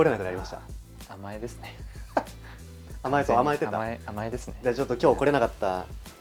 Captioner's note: laughs